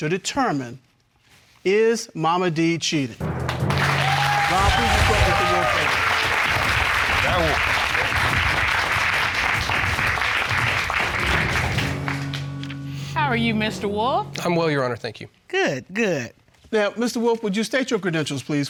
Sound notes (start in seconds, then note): 4.3 audience cheering